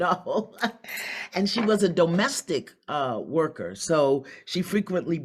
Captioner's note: laughs